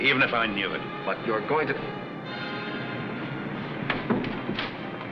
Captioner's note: car engine humming